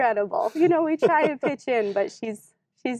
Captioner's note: laughs